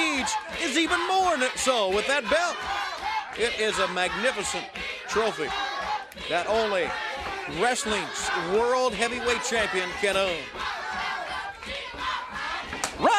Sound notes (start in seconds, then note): 1.7 crowd chanting